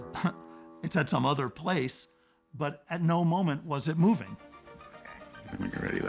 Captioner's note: chuckles